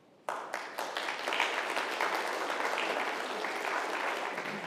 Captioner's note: congregation applauding